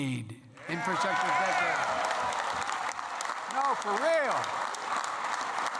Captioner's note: applause